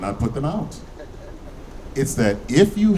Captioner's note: laughing